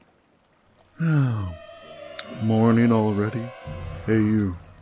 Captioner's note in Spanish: Yawwn